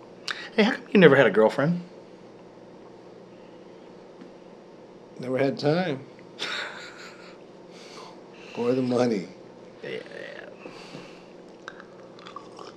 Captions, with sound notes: - How come you never had a girlfriend? - Never had time. (laughing) or the money. - Yeah.